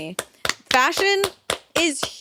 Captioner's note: clapping